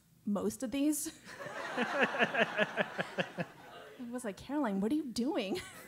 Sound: laugh

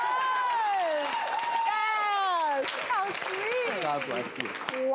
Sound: audience clapping

